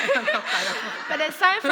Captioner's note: laughter